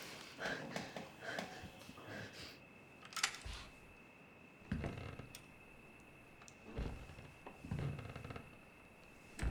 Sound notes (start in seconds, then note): 1.2 Claire panting; 3.7 gun clicks; 6.6 floorboards creak